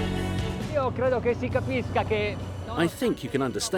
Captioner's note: speaking in foreign language